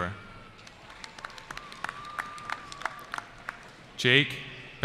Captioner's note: applause